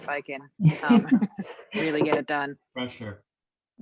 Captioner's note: woman laughs